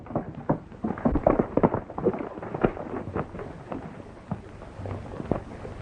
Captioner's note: horses galloping